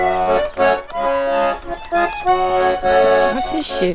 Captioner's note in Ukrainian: оплески